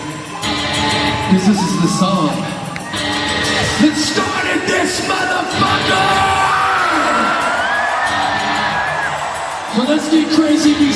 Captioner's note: cheering